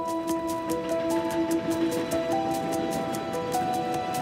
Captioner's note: train rumbling